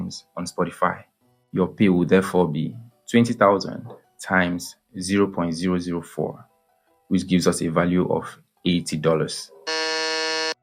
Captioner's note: buzzer